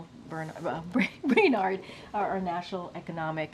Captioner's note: laughs